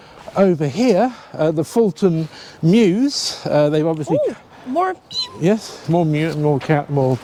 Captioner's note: mews